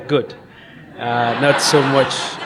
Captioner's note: audience laughs